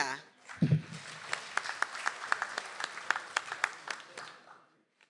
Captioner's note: audience applauds